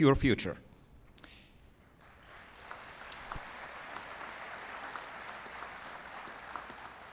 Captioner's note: applause